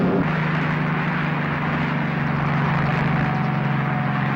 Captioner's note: helicopter roaring